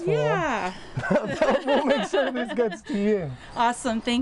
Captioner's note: chuckling